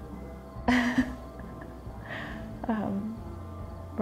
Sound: laughs

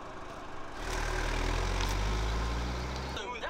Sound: engine roaring

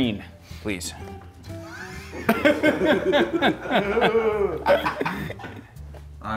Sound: laugh

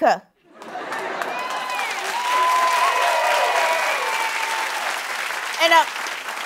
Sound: cheers and applause

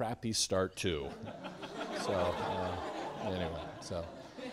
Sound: students laughing

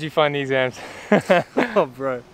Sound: chuckles

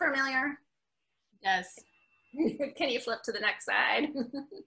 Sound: laughs

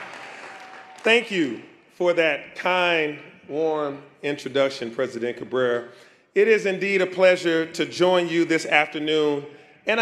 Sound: applause

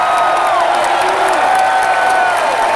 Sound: cheering

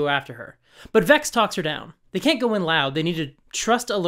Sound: none

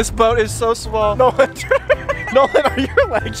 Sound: laughs

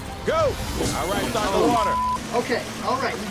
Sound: water running; beeps

